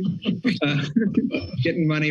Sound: laughs

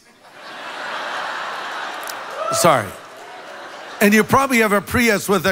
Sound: congregation laughs

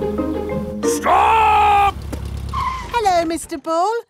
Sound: brakes squeal

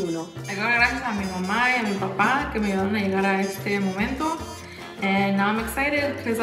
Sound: speaks in foreign language

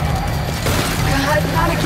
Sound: gunshots

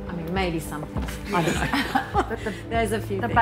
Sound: laughing

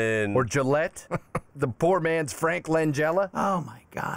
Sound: chuckles

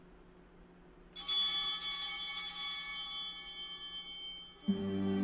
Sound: bell ringing

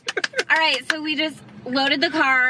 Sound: clapping

